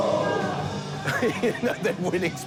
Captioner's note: screamo music; laughing